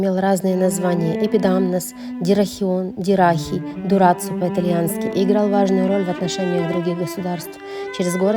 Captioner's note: in Italian